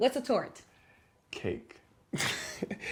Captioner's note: laughter